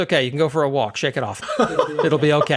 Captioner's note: laugh